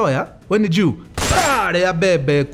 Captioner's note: gunshot